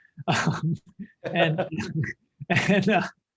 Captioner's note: laughter